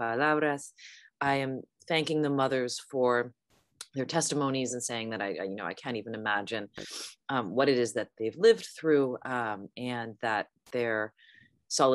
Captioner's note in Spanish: hablando inglés